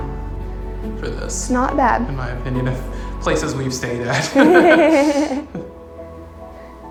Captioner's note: laughs